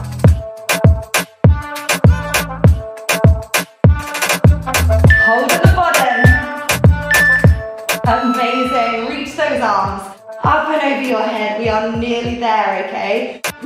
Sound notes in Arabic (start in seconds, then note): 5.0 المؤقت يصدر صوتًا